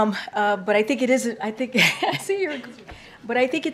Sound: laughs

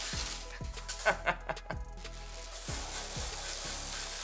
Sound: laughing

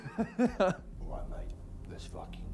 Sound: Simon laughs

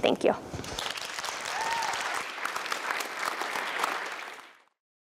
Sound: audience applause

